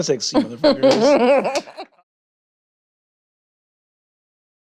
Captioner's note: chuckles